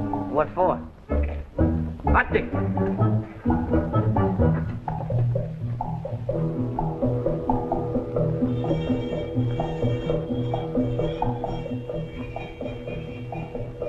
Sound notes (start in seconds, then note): 1.8 speaking japanese; 6.0 suspenseful music